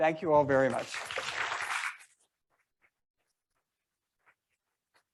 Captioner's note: members clapping